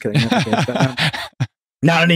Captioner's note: laughing